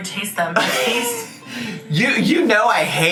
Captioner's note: laughs